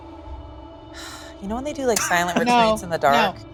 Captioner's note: laughing; sighs